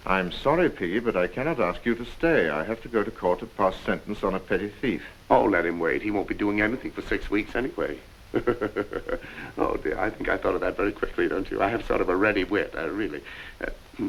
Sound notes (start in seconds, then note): 8.3 Piggy laughs